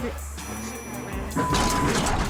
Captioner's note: loud crash